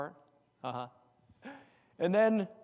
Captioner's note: giggles